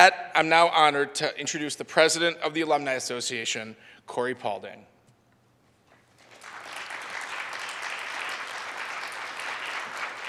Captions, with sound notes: And with that, I'm now honored to introduce the president of the Alumni Association, Corie Pauling. (audience applauds)